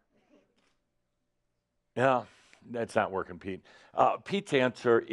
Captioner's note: slight pause